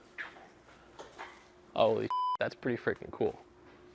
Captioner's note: beep